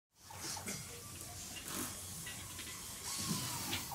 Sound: tools whirring

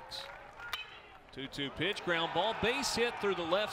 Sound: crack of bat

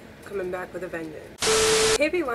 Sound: channel static

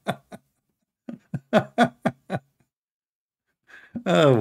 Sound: Ketawa

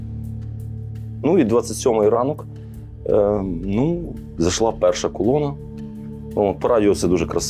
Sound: Russian

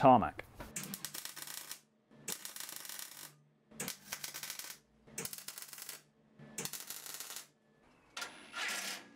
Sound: crackles from welding

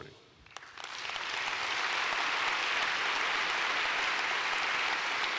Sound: audience applauding

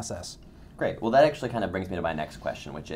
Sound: voiceover

